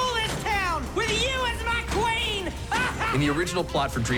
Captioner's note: laughs evilly